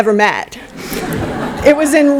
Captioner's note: laughter